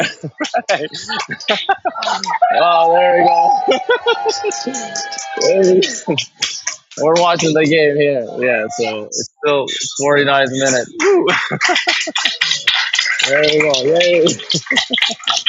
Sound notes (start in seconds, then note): 1.9 cheering and clapping; 3.1 laugh; 6.1 laugh